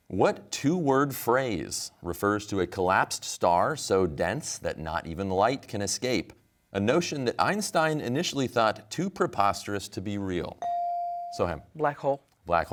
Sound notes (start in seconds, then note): none